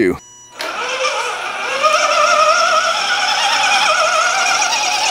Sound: electric motor runs

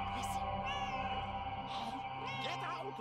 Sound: Hodge meows

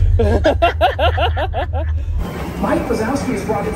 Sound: they laugh

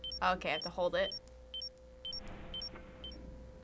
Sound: beeping

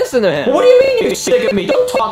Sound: voice glitching

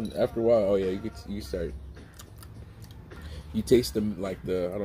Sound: smacks gums

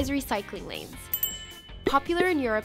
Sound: bell ring

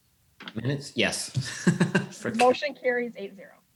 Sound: chuckles

